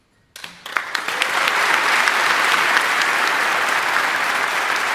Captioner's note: audience applauding